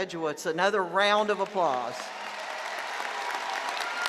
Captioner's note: applause